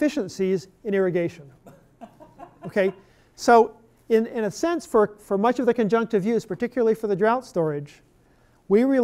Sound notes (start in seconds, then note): 1.9 laughter